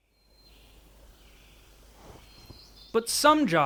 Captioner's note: birds singing